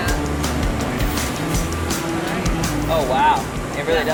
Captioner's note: machinery whirring